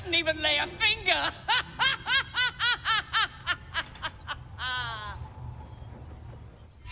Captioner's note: laughing